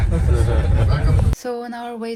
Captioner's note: laughs